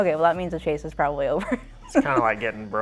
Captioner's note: laughs